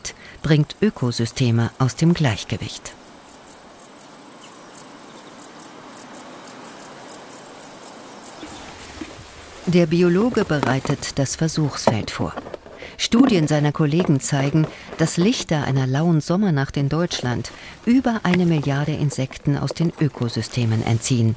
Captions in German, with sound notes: bringt Ökosysteme aus dem Gleichgewicht. (Grillenzirpen) Der Biologe bereitet das Versuchsfeld vor. Studien seiner Kollegen zeigen, dass Lichter einer lauen Sommernacht in Deutschland über eine Milliarde Insekten aus den Ökosystemen entziehen,